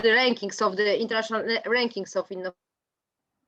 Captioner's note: mic distortion